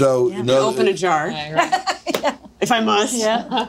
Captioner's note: laughing